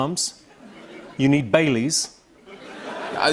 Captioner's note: laughter